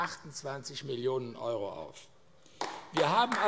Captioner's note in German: Vereinzelter Beifall AfD